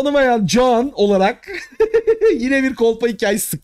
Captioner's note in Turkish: gülüşmeler